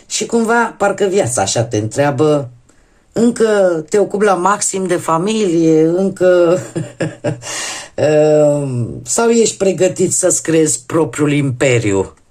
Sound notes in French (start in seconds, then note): 6.5 rires